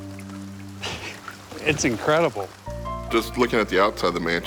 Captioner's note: chuckles